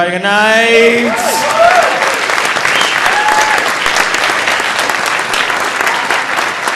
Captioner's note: audience cheering; audience applauding